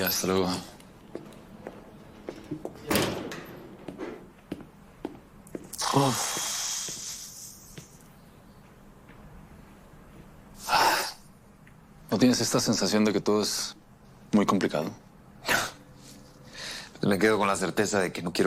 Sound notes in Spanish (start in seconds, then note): 5.8 Fer exhala